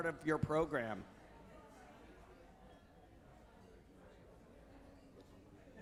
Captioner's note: people chattering indistinctly